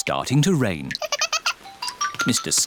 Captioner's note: giggles